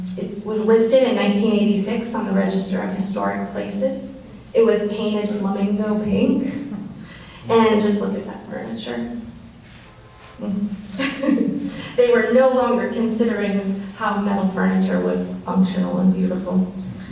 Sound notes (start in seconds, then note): 10.9 laughs